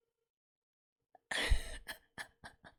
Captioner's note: laughs